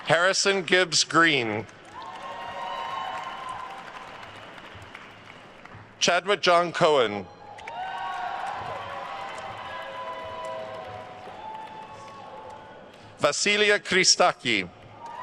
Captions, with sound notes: Harrison Gibbs Green. (attendees cheering and applauding) Chadwick John Cohan. (attendees cheering and applauding) Vasileia Christaki.